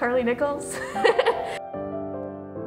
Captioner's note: laughs; nostalgic piano music